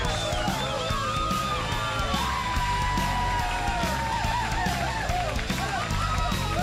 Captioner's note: crowd cheering